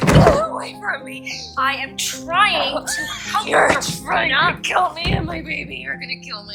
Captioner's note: shouting